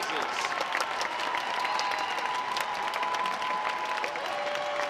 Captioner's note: audience applauds